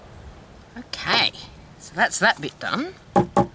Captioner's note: knocking sound on table